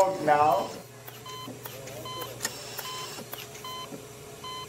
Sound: EKG beeping

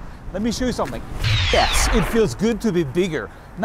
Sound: electronic whirring

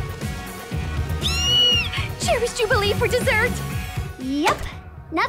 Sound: squealing

